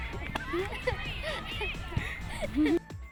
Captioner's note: laughing